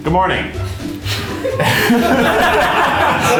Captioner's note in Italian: risate